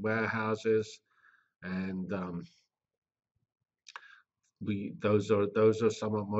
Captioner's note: pause